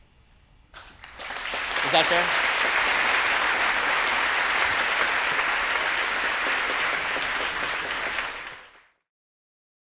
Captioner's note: audience applause